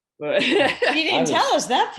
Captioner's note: laughs